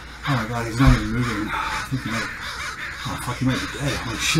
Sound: crows cawing

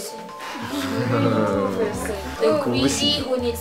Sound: wooing

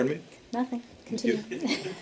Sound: laughter

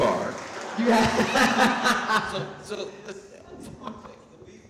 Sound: audience laughing

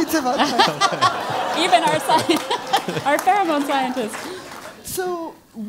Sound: laugh

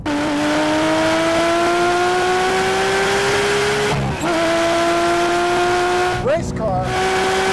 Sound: old 997 gt3rs - engine at high speed revving

